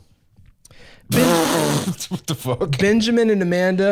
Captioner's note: laughing